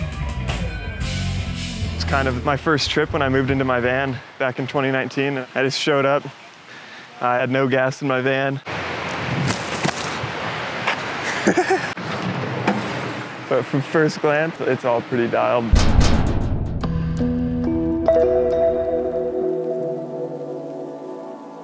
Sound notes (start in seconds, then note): 8.8 tree branches rustling; 9.5 laughing; 16.8 gentle electronic music